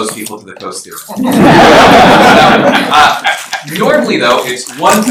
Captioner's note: laughter